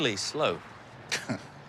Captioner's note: laughs